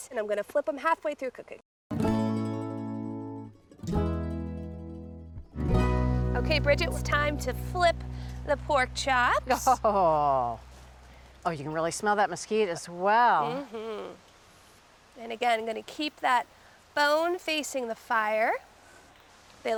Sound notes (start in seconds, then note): 9.5 chuckles